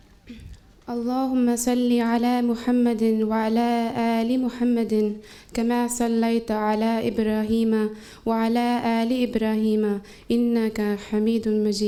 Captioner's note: Arabic